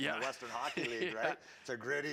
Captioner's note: laughs